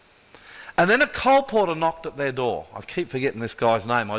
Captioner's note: none